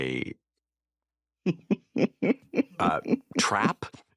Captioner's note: laughs